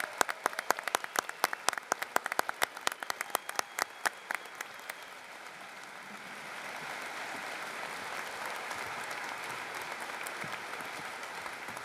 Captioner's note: applause